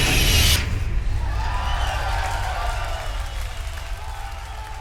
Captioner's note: crowd cheering